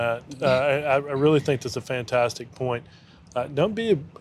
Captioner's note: laughing